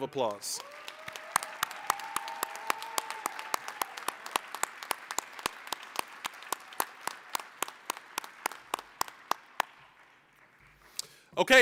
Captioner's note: applause, cheering